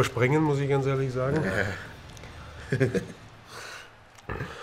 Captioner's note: lachen